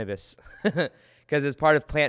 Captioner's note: chuckles